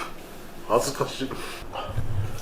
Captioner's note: laughs